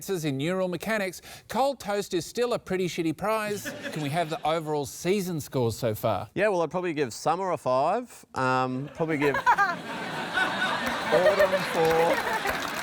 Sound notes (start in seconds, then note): 8.8 laughter